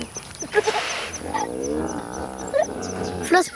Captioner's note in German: Das Flusspferd grunzt